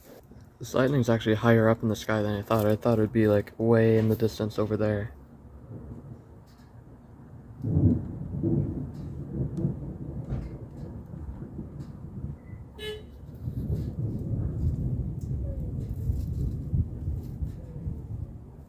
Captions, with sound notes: This lightning's actually higher up in the sky than I thought, I thought it'd be like way in the distance over there. [Thunder rumbles] [Car horn beeps] [Thunder rumbles] [Thunder rumbles]